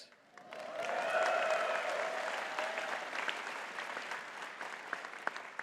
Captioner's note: audience cheering and clapping